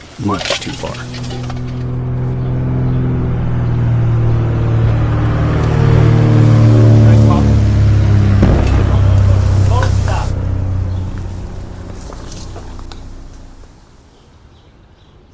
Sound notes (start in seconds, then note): 4.4 sound of overhead spotter aircraft